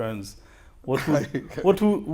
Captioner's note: laughs